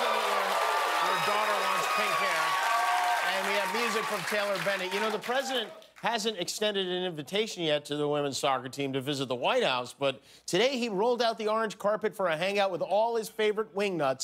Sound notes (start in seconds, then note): 3.5 cheers and applause